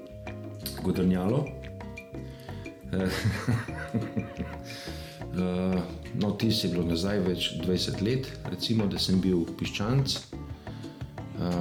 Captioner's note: laughter